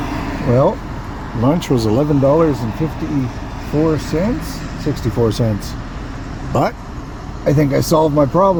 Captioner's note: traffic noise